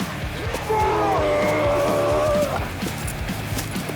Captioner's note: Leopold Roars